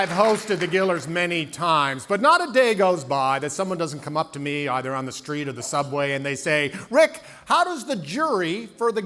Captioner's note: cheering and Applause